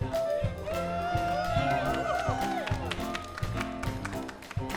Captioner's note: students cheering